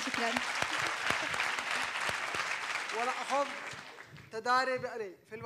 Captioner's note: Claps for himself